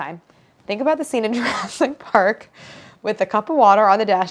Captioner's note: laughs